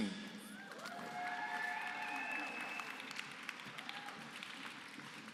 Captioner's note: applause